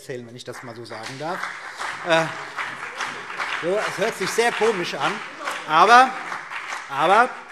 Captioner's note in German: Beifall CDU und BÜNDNIS 90/DIE GRÜNEN